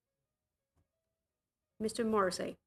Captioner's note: speaking in French